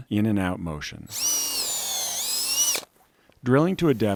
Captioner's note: drill whirring